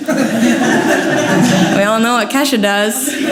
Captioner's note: audience laughs